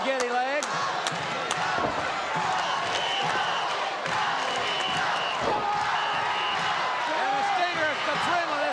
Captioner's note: applause